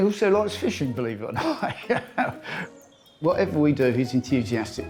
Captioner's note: laughs